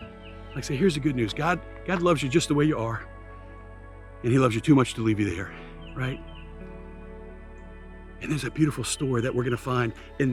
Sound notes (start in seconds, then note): 6.5 birds continue chirping; 6.5 gentle music continues